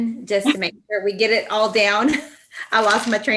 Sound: laughs

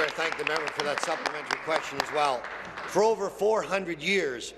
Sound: applause

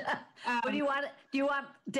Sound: laughs

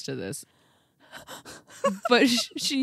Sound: laughs

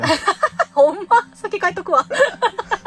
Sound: laughs

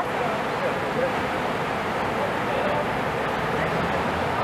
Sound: flowing river

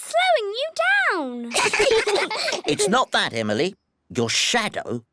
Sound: all giggle

